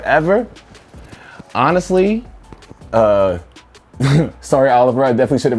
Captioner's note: laughs